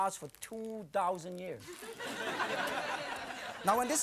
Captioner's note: audience laughing